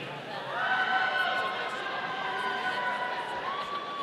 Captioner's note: audience cheering